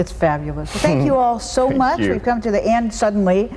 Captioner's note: chuckles